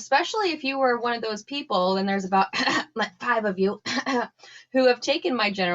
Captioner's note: cough cough